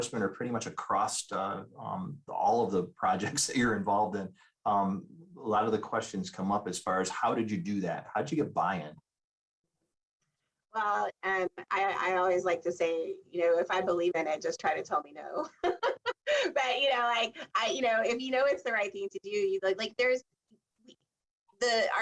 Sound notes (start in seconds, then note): 15.4 laughs